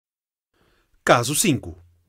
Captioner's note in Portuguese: Voz masculina